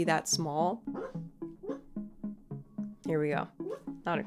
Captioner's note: dog woofing; dog woofs